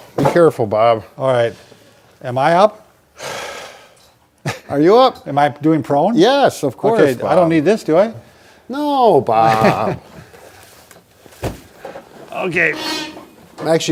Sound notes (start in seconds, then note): 4.4 laughs; 9.4 laughs